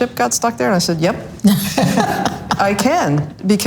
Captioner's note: all laughs loudly